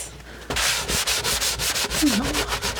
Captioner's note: scratching